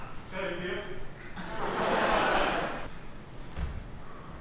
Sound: audience laughs

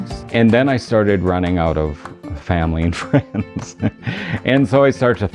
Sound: laughs

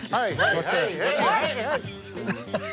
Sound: laughs

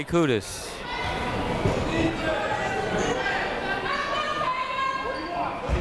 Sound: people shouting in the crowd

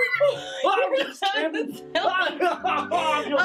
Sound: laughs

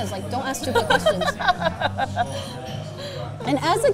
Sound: laughs

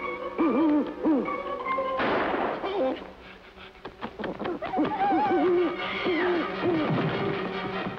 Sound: gun shot

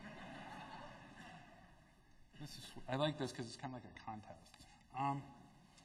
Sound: laughter

